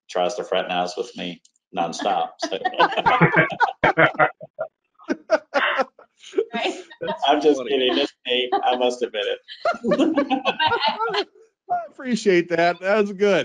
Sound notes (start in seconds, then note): 1.7 participants laughing; 9.6 laughing; 10.3 laughs; 11.1 laughing